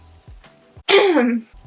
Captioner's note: cough